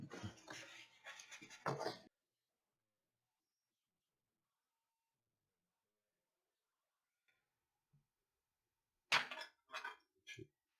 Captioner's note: silence